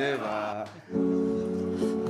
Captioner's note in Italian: Applauso